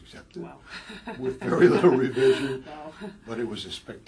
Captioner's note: laugh